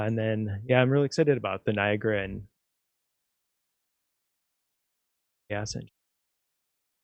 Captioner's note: audio out